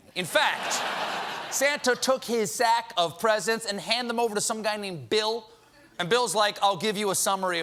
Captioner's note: laughter